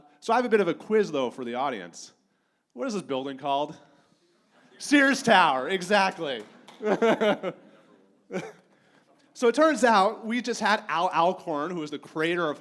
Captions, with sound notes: So I have a bit of a quiz though for the audience. What is this building called? Sears Tower. Exactly. (laughs) So it turns out we just had Al Alcorn, who was the creator